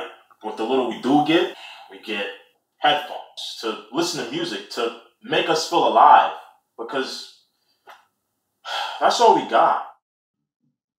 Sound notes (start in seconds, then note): 8.6 sigh